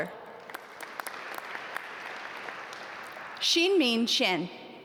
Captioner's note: audience applaud